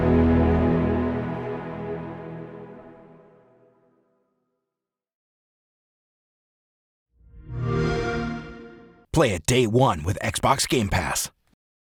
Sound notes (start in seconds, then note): 7.3 xbox sound